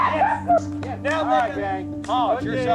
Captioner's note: player cheering